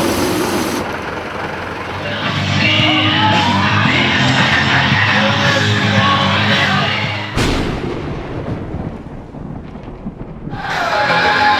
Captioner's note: thunder; heavy metal music